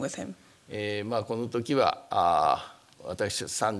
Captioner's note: speaking japanese